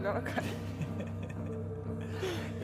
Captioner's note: laughter